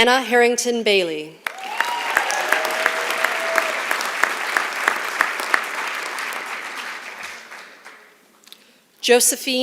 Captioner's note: applause